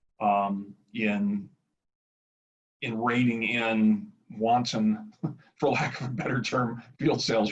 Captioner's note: laughs